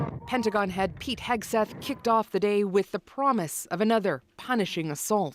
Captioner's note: bombing